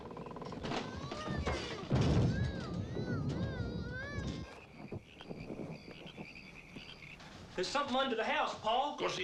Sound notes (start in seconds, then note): 2.0 house booms